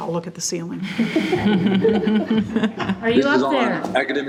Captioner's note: group laughs